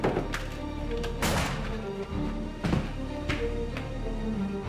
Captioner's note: gun bangs